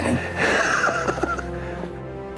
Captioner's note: laughs